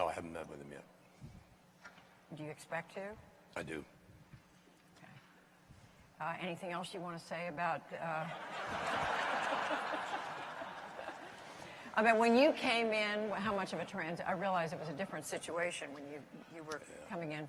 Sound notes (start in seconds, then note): 8.2 laughter